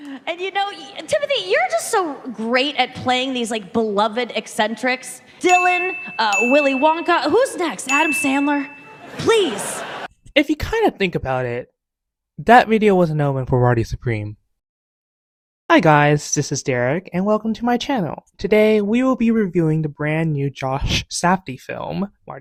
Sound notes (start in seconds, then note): 8.8 crowd laughter